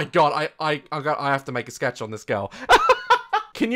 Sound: laughs

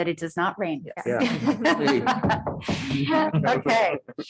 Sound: audience laughing

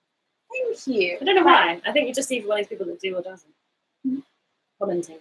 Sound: speaks quickly

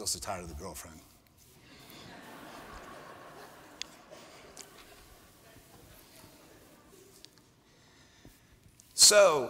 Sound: laughter

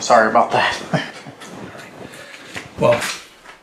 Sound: Amber's Dad chuckles

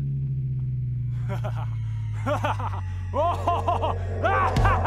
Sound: maniacal laughter

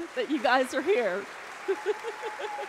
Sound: congregation applauding; laughing

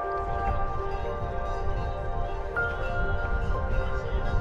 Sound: bell ringing

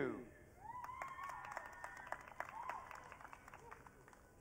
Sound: audience cheering

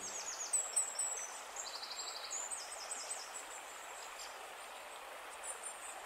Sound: sounds of birds chirping, water flowing

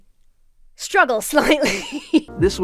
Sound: laughs

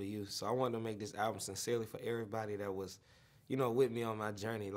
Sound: none

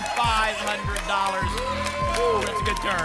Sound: applause and cheering

